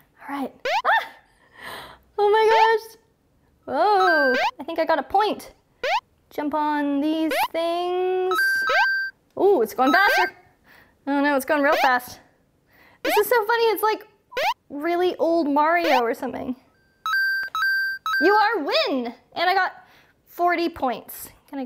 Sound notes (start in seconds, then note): 1.2 beeping; 4.0 bell tinkling; 8.4 bell tinkling; 16.7 bell tinkling